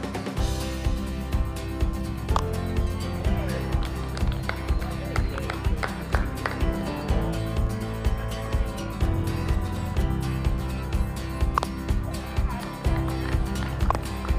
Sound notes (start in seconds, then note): 0.1 dynamic music; 2.3 polite clapping; 11.8 indistinct chatter